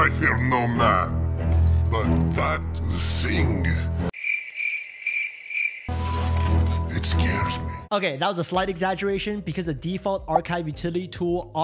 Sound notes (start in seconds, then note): 4.1 crickets chirping